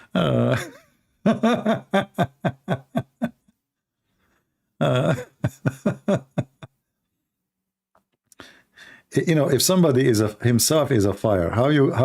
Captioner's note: Ketawa